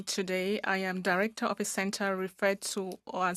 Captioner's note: speaking French